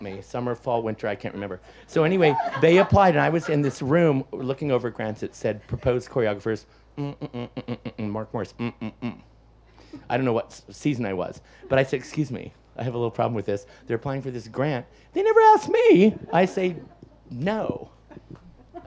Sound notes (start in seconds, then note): 0.0 audience laughs; 1.3 audience laughs; 7.0 humming